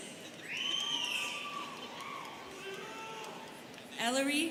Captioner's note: students cheering